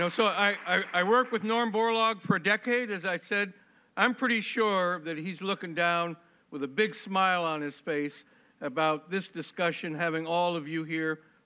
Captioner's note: applause